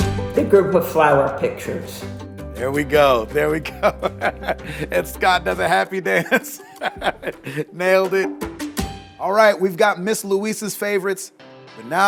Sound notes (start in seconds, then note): 3.4 laughs; 8.6 upbeat music